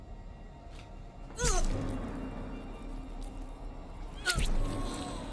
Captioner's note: Asase grunts as she is stabbed; Lavinia grunts as she is stabbed back